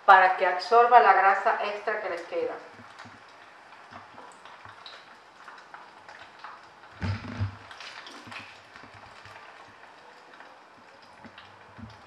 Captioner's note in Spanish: Crepitación